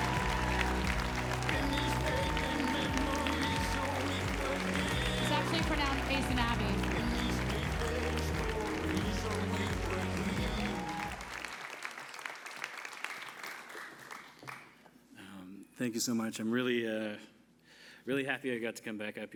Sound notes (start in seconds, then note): 1.8 applause